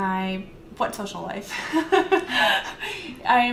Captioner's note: laughs